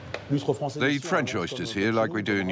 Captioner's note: speaking in foreign language